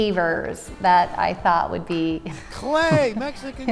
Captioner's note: chuckles